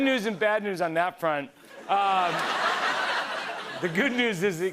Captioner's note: laughter